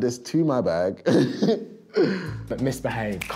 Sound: laughing

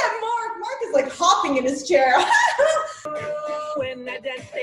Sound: laughs

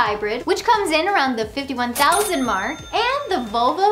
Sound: cash register dings

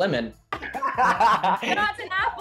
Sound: laughs

